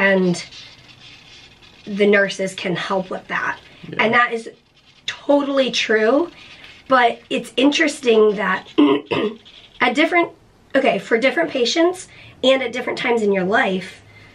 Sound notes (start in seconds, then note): 8.8 clears throat